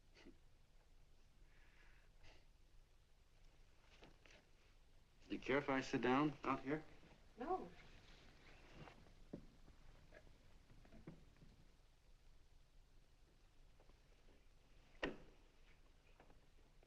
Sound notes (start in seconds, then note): none